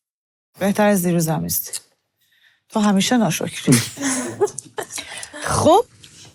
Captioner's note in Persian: خنده